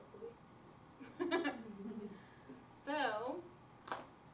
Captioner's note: laughter